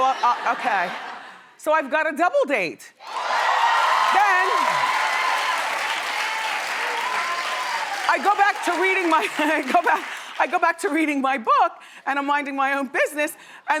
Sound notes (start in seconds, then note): 3.0 audience cheering